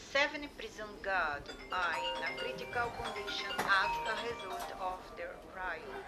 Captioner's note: phone rings